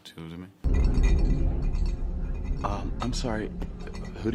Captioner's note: glass rattles